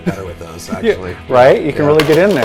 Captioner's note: laughs